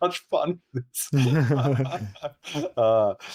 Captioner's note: laughing